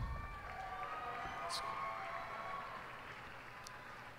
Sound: cheers and applause

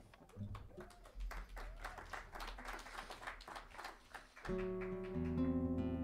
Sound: saludos y aplausos; cheers and applause

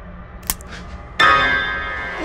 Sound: bones crack; suspenseful music

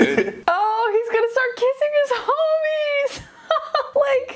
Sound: laughing; laughing

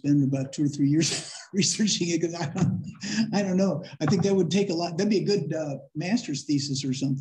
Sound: laughter

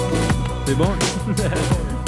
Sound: French

